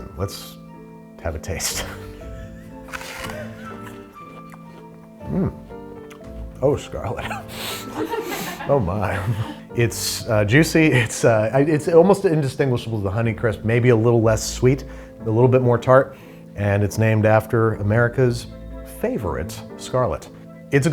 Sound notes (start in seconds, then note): 7.6 people laughing